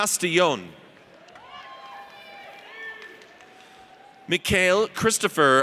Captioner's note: audience cheers